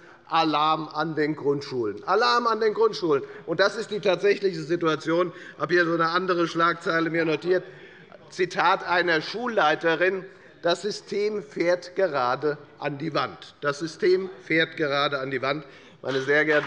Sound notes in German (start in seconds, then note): 13.6 Beifall bei der FDP